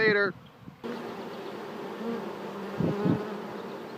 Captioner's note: bees buzzing